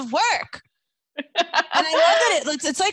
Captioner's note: laughs